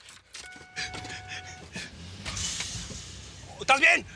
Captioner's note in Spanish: Motor enciende